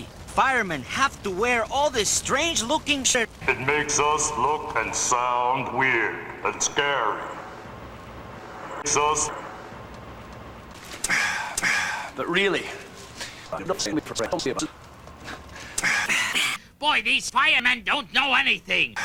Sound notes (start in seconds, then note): 3.3 deep voice; 11.0 loud breath; 15.2 pitchshifted breathing